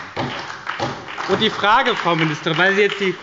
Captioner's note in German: Beifall bei der SPD